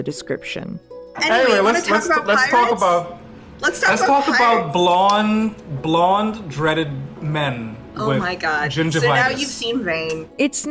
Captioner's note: foreign